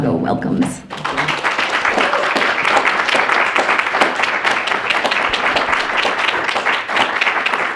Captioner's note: clapping